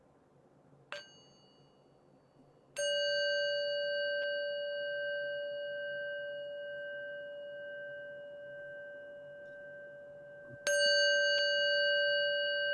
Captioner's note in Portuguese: O som do sino toca três vezes